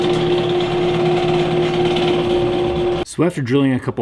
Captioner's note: drilling sounds